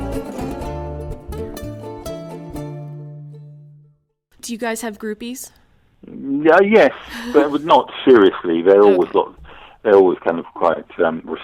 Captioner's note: laughing